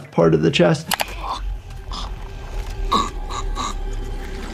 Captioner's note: person gurgles